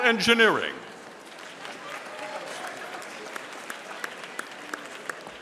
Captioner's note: audience applauding